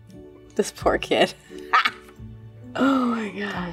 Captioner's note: laughs